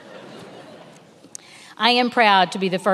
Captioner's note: many laughing